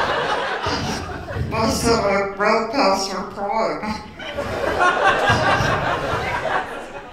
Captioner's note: laughter